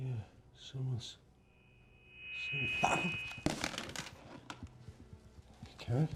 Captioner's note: loud screeching noise